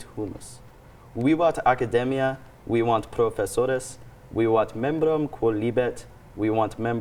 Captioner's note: continues speaking Latin